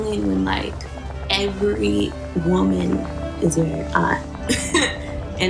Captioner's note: laughs